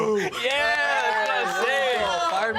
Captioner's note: cheering